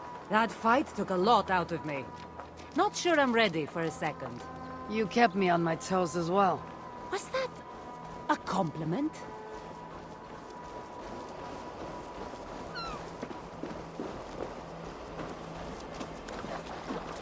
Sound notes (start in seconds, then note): none